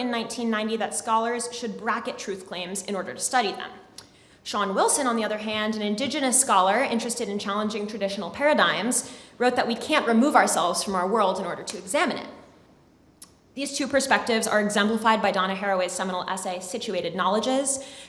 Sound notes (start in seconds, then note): none